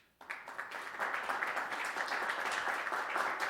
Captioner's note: applause